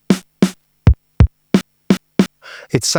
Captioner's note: silence